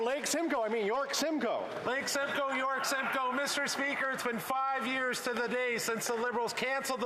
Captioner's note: applause